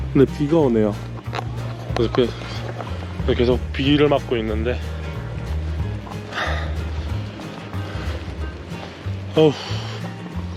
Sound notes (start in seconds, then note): 4.9 raining